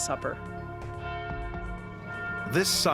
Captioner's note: bell tolling